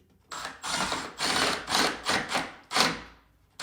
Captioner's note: drill whirring